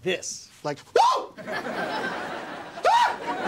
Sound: screams

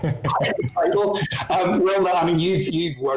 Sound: laughs

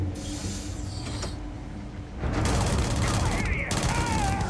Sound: enemies yelling

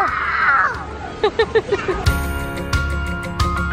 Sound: laughs; upbeat music

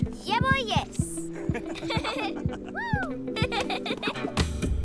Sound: laughter; giggles

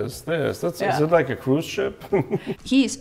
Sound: chuckling

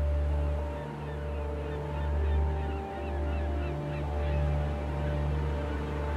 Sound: birds; waves sounds

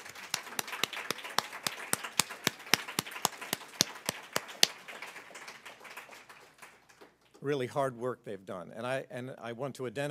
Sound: applause

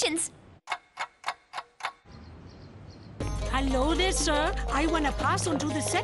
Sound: clock ticking

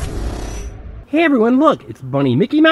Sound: voiceover

